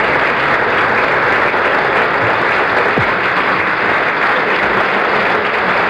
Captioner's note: applause continues